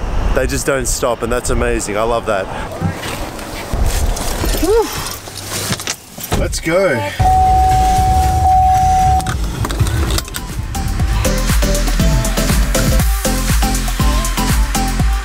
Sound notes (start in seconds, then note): 4.6 sighs; 7.0 car beeping; 10.5 energetic techno beat